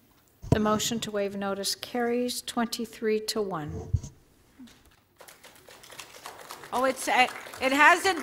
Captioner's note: applause